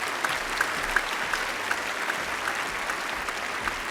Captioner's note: applause